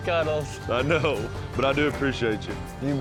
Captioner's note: laughs